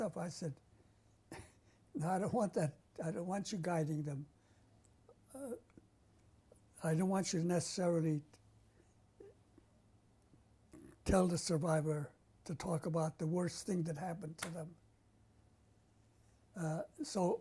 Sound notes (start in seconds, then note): 0.8 laughs; 9.3 pauses for 3 seconds